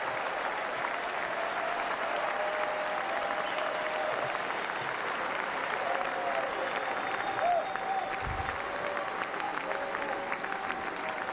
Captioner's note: applause